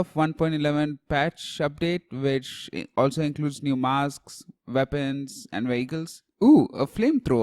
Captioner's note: ooh